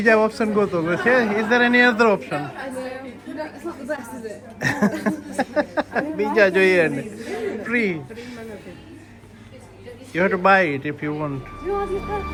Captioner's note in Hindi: हँसी